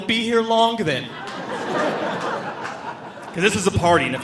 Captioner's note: audience laughing